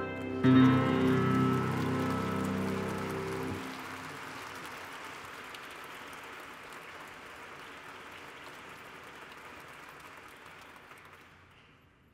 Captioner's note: applause